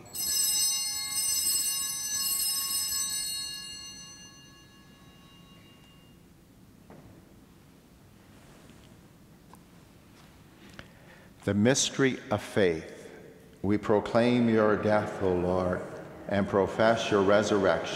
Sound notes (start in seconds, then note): 2.5 bellringing